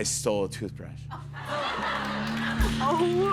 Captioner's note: laughter